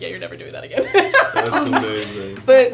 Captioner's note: laughing